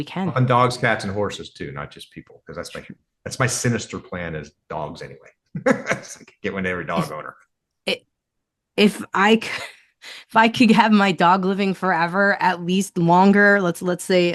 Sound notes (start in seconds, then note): 5.5 laughs